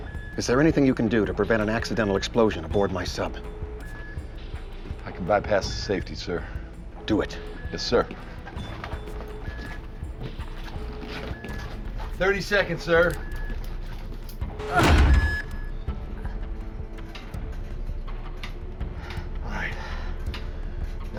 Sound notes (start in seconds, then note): 8.9 alarm Beeping; 13.4 grunts; 14.5 alarm